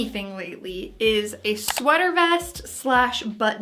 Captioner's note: clicking